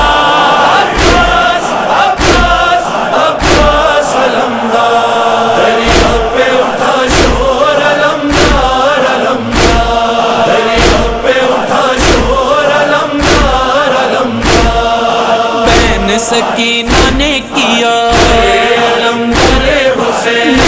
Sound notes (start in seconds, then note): 9.9 chanting